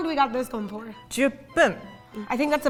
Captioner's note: speaking in Japanese